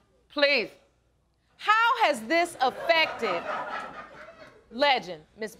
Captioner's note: audience laughing